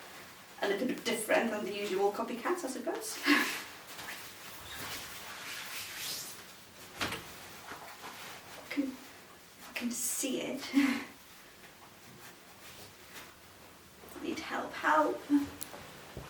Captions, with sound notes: A little bit different than the usual copycats, I suppose. (chuckles) (fabric rustling) I can see it. I need help. Help!